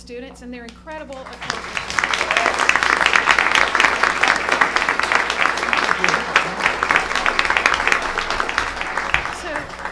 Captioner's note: applause